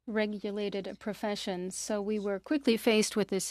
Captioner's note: speaking French